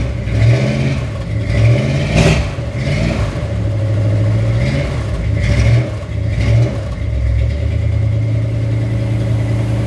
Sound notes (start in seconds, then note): 0.8 engine running